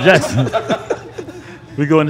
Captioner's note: laughter continues